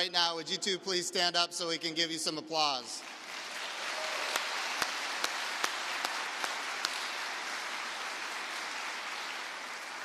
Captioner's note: applause